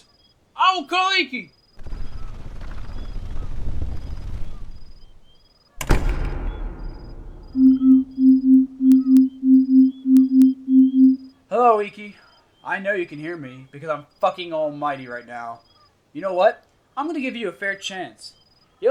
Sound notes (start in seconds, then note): 5.8 door closing; 7.5 beeping